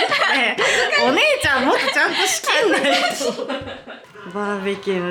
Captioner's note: laugh; laughs